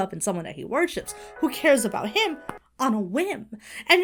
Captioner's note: ringtone plays